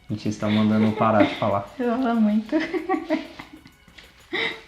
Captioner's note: laughs